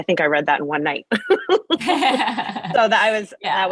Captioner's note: laughs